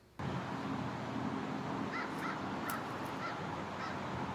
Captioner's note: distant traffic hums